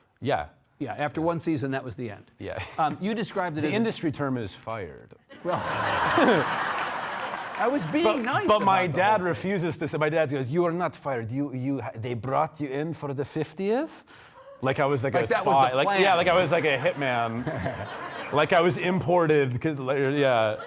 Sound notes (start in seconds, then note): 5.4 audience laughing